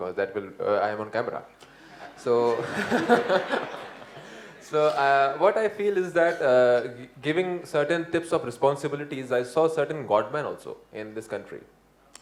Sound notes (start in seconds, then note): 2.4 laughter